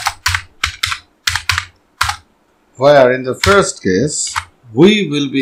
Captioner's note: typing